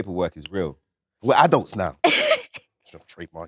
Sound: Letitia laughs

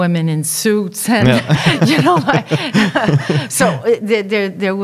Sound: laughing

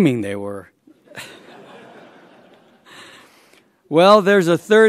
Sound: laughter

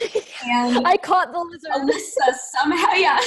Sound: giggles

